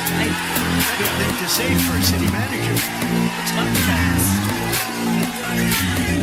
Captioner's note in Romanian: Aplauze